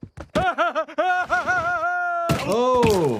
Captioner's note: Homer laughs